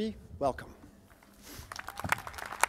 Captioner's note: cheers and applause